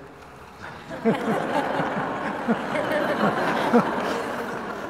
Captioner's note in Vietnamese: tiếng cười